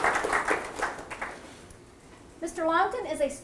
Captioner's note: audience applause